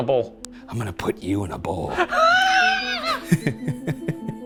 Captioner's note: squeals; eerie music; laughs